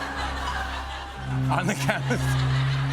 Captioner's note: laughs; laughter